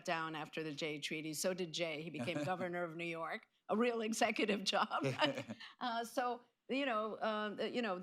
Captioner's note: laughter